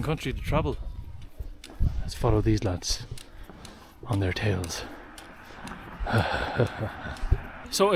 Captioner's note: cartoon laugh